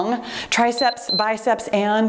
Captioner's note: timer beeps